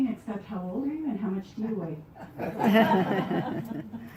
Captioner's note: laughter